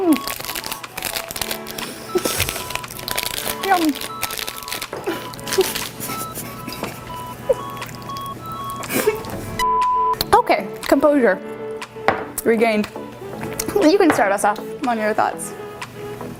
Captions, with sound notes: Hm. Yum. (beeping) Okay, composure regained. You can start us off, I want your thoughts.